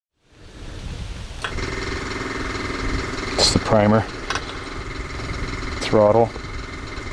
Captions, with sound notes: - That's the primer. (engine clicking) Throttle.